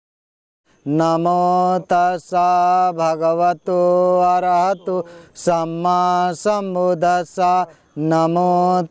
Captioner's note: Pāli